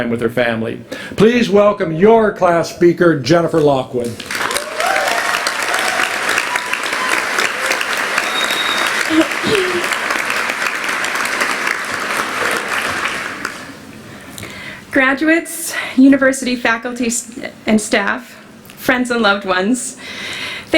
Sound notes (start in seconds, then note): 4.1 applause